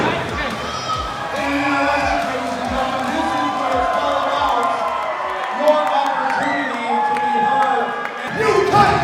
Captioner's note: thud; crowd cheering